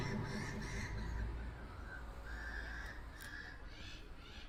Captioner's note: birds caw